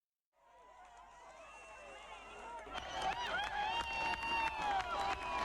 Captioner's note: crowd cheers